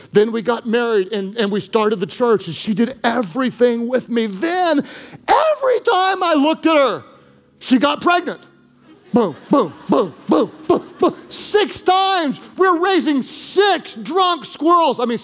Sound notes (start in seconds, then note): 8.7 congregation laughing